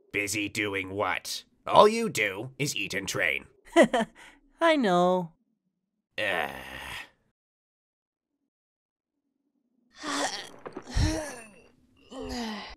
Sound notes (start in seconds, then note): 3.7 GOKU chuckles; 6.2 KING KAI sighs; 10.0 GOHAN groans